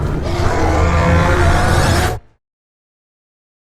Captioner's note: roaring